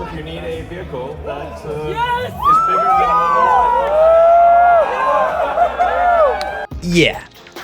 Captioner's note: crowd cheering drowns out elon musk